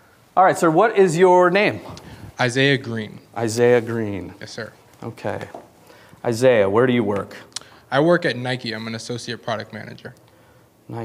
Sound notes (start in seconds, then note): none